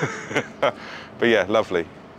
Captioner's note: laughs